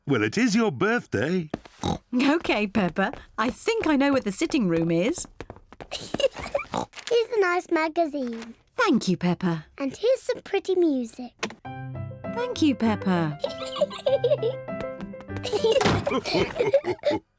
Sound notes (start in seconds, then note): 1.8 oinks; 6.0 giggles; 11.6 lively music plays; 13.8 giggles; 15.3 all laugh